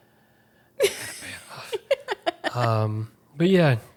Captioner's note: laughing